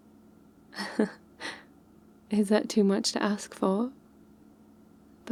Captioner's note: laughs